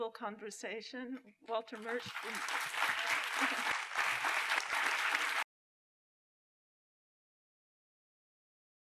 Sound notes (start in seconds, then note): 1.7 applause